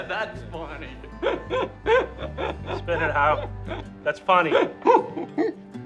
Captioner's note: laughing